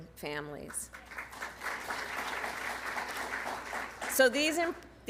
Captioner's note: applause